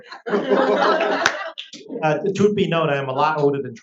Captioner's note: audience laughs